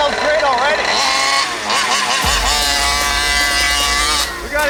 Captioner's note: RC engine accelerating